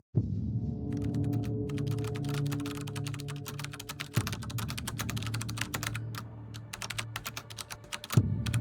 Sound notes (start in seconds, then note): 0.1 suspenseful music starts; 1.5 keyboard clacking